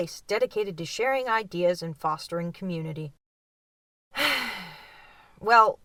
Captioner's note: sigh